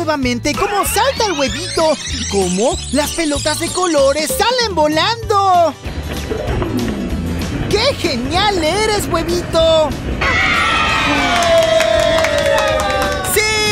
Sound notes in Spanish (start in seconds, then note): 0.6 Sonido de rebobinado; 11.0 Aplausos